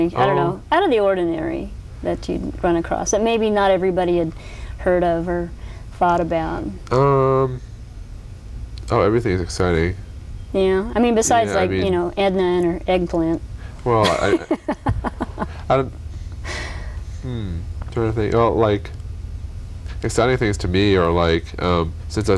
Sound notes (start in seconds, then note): 14.0 laughter